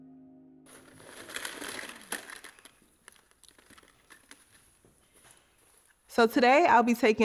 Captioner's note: rattling